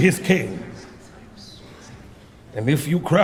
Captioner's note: voices murmuring